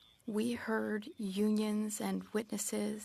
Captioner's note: speaking French